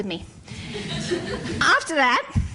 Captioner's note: laughter